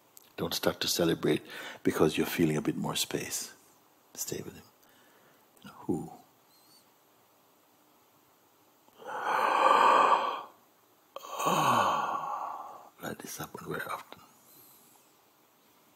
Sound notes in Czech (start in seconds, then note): 8.9 zívání a uvolnění